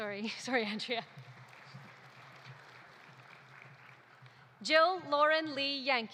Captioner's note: audience applauding